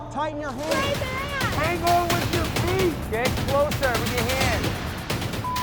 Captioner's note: crowd cheering